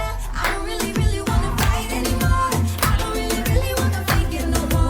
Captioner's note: audience claps along